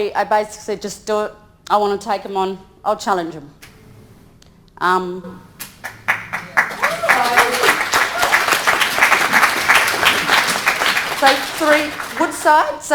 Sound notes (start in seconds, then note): 5.6 audience applauding